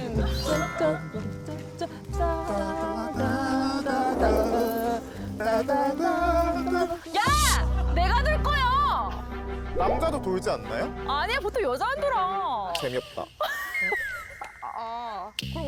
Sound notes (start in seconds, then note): 7.0 serious music; 9.7 bewildered sound effect